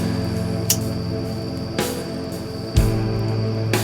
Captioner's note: lighter clicks